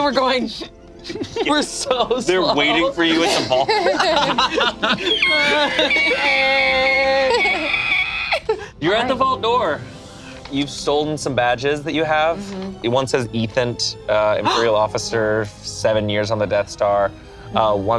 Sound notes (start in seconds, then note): 4.1 group laughs; 6.1 imitates squeaking